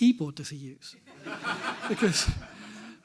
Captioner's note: everyone laughs